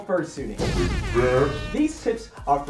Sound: airhorns

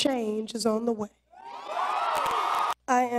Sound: cheers

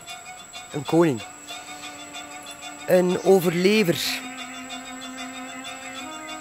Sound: speaking in foreign language

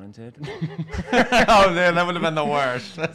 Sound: laughing

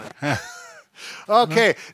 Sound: laughs

